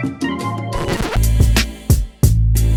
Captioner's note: record scratch